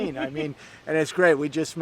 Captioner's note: laughs